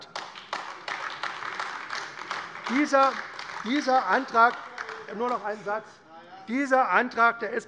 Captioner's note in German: Beifall AfD